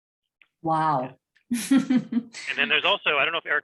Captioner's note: chuckles